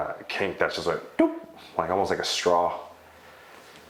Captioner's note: imitates popping joint